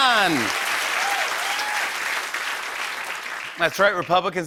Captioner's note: applause